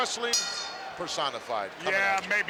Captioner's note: bell rings